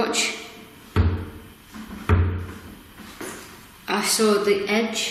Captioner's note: banging